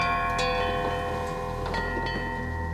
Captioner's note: bell chimes